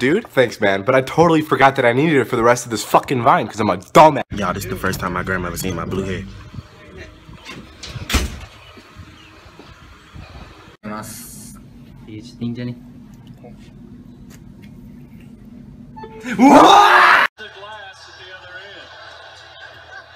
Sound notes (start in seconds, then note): 15.9 iPhone charging noise; 16.3 screams